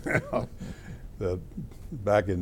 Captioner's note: laughter